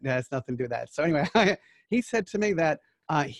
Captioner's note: laughing